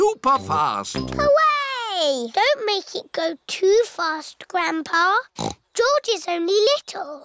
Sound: snorts

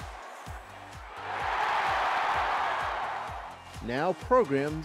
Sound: crowd cheering

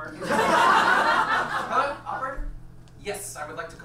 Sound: audience laughs

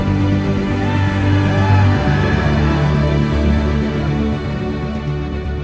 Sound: crowd cheering

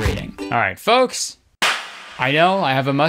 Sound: claps

